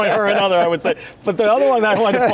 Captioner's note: laughing